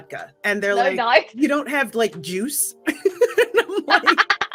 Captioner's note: laughs